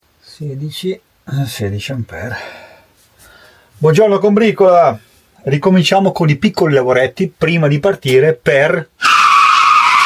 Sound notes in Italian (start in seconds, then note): 2.4 sospiri